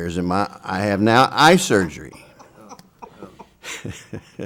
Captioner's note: laughs